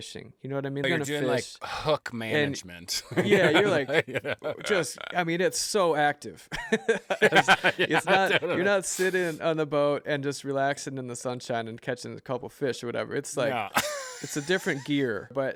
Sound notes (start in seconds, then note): 3.0 laughs; 6.5 laughter